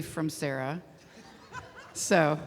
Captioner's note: laughter